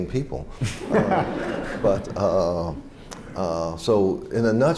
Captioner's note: laughter